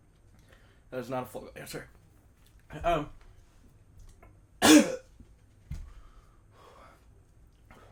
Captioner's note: cough